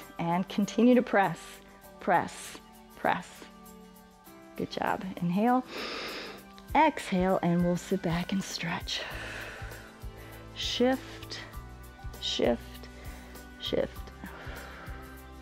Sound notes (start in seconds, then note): 5.7 inhales; 9.8 exhales; 14.2 exhales